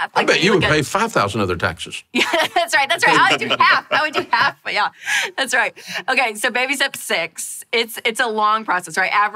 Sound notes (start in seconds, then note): 2.8 laughs